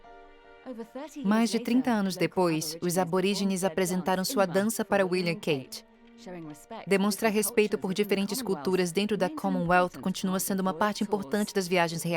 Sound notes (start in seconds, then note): 4.4 speaking in foreign language